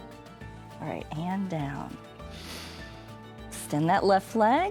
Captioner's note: inhales